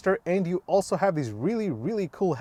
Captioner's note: none